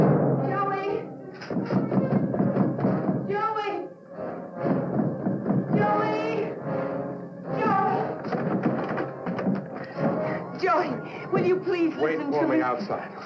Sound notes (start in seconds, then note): 1.4 pounding on door